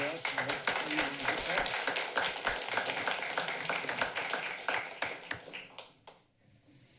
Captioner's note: applauding